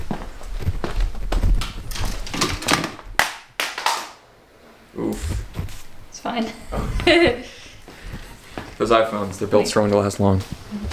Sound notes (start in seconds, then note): 2.2 phone drops on the floor; 6.4 laughs